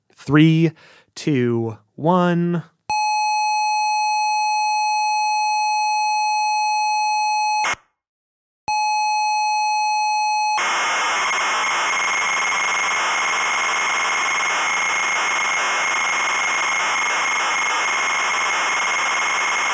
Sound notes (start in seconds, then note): 2.7 computer sound of a single tone; 8.8 computer sound like static